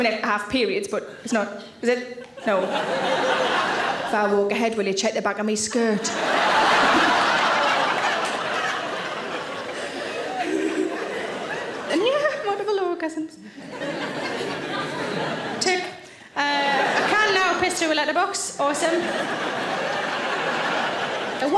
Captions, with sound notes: I mean, I have periods, but it's not... Is it? No. (audience laughs) If I walk ahead, will you check the back of me skirt? (audience laughs) (Sarah chuckles) And yeah, multiple orgasms. Tick. I can now piss through a letterbox, awesome.